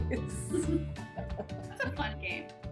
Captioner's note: laughing; both laugh